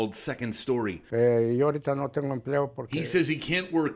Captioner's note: speaking in Spanish